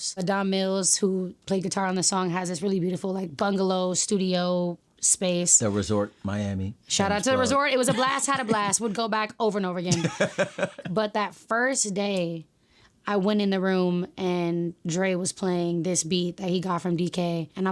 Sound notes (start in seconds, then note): 9.9 laughing